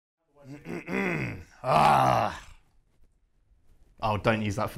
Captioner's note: aggressive throat clearing